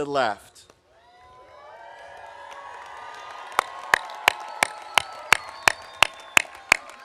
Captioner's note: audience cheering; audience applauding